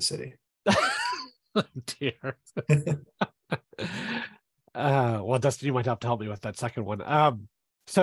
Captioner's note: laughs